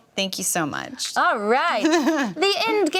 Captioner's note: laughs